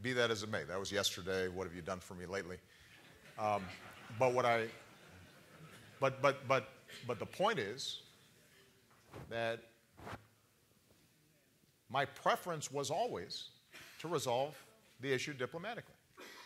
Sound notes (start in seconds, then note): 4.7 laughter